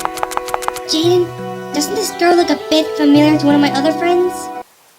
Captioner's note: whispering